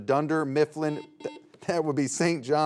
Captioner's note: buzzer beeps